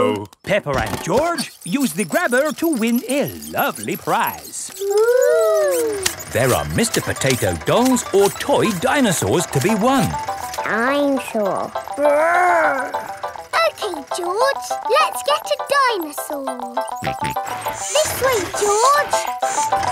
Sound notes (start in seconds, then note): 17.0 george snorts